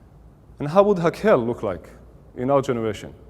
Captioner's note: Hebrew